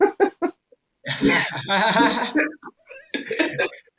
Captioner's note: laughing